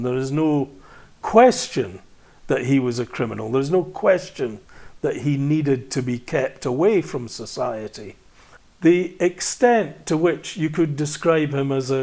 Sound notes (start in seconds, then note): none